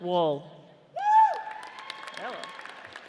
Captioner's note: audience cheers